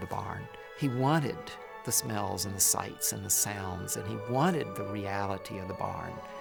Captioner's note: none